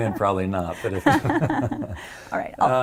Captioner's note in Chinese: 笑聲